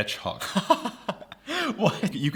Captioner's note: laughs